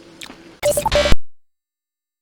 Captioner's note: static noise sound